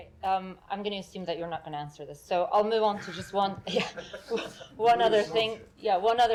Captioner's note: laughter